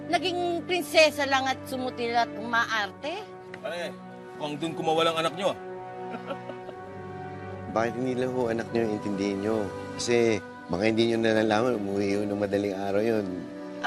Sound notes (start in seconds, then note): 6.0 laughs